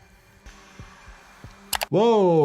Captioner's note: computer mouse clicks; heart softly thumping